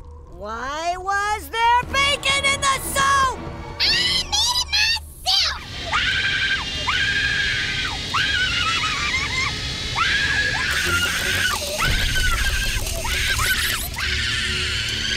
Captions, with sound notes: Why was there bacon in the soap? I made it myself! [screaming] [screaming]